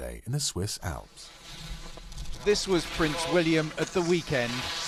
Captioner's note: voiceover